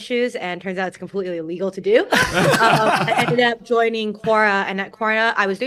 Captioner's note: laughter